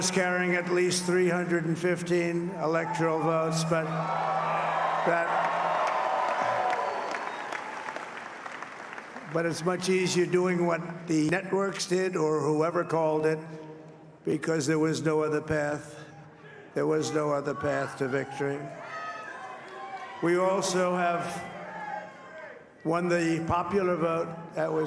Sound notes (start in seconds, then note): 4.2 applause